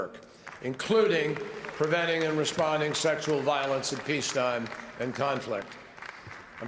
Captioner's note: applause